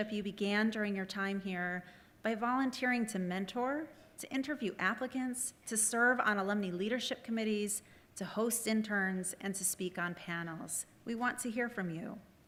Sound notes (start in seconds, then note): none